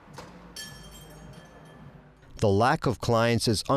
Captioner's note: bells jingle